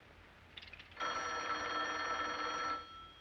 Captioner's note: telephone ringing